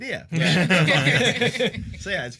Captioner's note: laughter